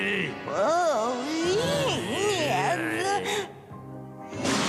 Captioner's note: groaning